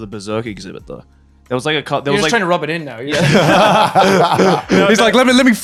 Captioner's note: laughing